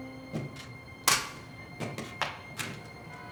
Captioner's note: stapler clanging